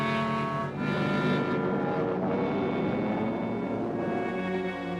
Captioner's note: plane engine roaring